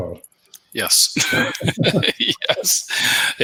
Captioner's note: laughs